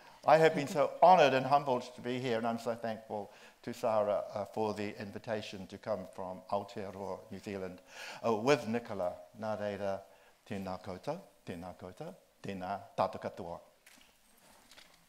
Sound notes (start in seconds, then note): 9.5 speaks in Māori